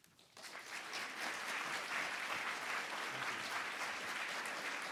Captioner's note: audience applauding